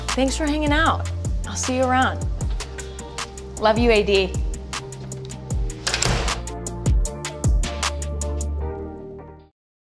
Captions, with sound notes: Thanks for hanging out. I'll see you around. Love you AD. [door slams]